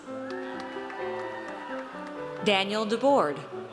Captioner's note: audience cheers